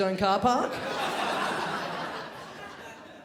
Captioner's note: crowd laughs